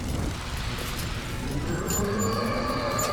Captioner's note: roaring